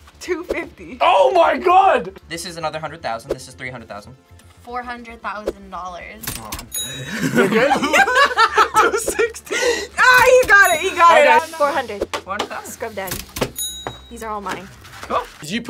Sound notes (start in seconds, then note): 7.0 both laugh; 13.6 register dings